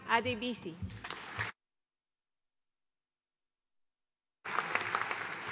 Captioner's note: audience applauding